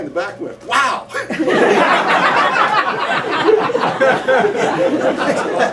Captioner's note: laughter